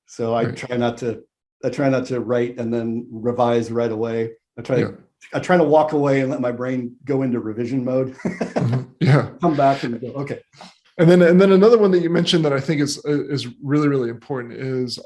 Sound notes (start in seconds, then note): 8.1 laughs